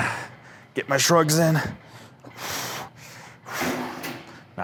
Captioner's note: pants